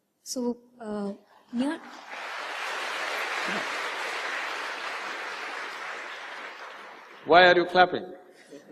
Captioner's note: laughter